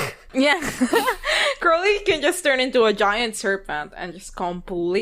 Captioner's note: laughs